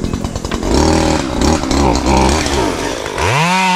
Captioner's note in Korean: 전기톱 소리